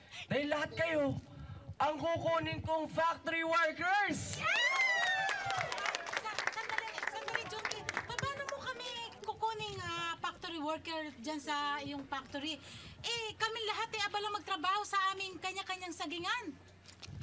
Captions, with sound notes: because I’ll be hiring you as factory workers. [crowd applauding] Hold on, hold on, Junkie. How will you hire us as factory workers? Everyone here is busy working on our own plantations.